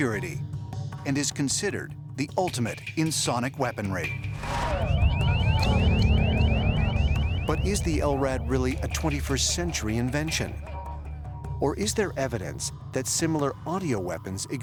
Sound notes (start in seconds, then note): 4.3 beeping